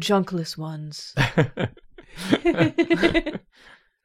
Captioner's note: laughter